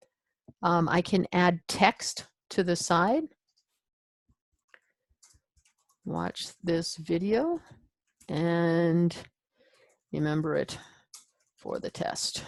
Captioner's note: typing